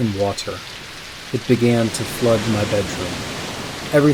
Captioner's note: rushing water through window sound